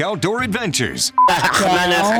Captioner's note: beep